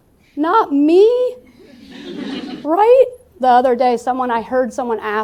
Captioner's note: laughter